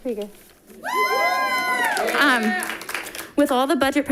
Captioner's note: audience applauding